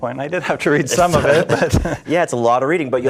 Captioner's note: laughs